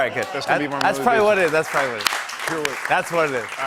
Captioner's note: applause